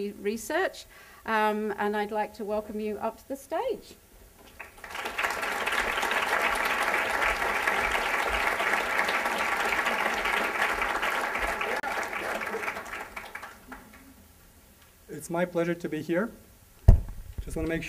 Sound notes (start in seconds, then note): 4.4 applause